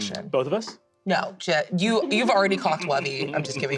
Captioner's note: giggles